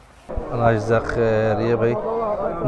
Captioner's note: Arabic